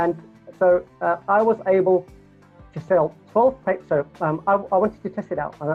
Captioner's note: stutters